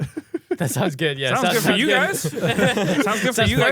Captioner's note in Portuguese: risos